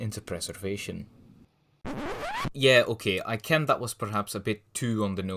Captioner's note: record scratch